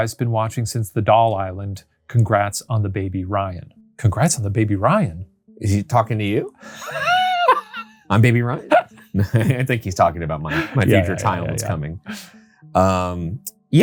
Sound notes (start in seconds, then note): 6.7 laughing; 10.4 chuckles